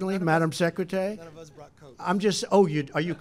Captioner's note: laughter